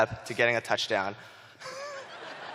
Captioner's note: laughter